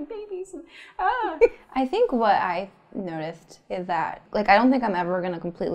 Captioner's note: laughs